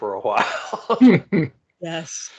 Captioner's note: laughing